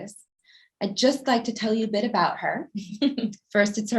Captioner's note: giggling